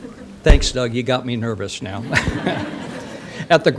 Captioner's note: audience laughter